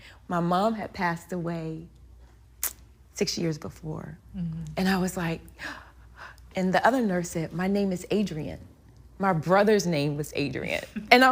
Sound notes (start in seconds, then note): 5.6 breathing heavy